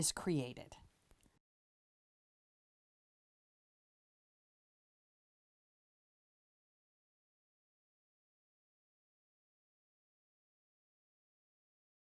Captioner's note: no Sound Present